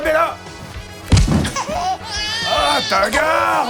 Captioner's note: baby crying